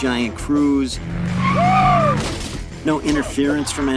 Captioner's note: screaming